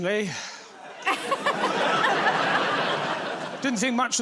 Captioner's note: laughter